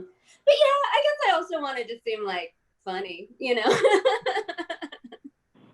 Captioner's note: laughs